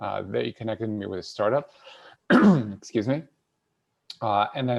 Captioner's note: clears throat